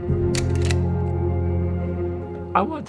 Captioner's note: slide reel clicking